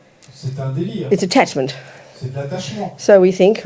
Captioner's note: French